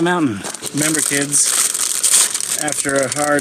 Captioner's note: Oreo package crackling